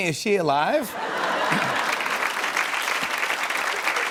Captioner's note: laughter and applause